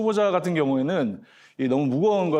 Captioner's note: voiceover